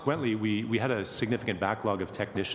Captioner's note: speaking French